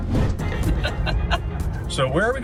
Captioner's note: laughs